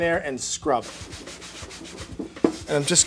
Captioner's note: upbeat jazzy music; towel scrubs